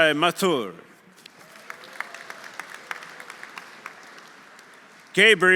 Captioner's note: audience applauding; audience cheering